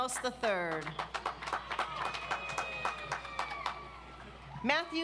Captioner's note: audience applauds